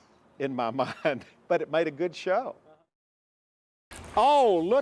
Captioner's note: laughs